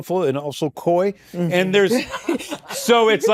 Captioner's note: laughter